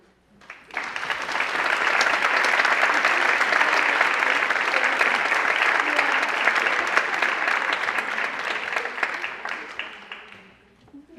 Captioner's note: applause